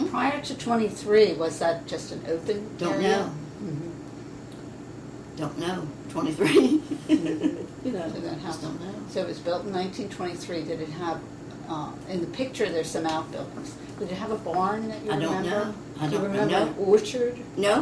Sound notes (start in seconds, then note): 6.9 laughs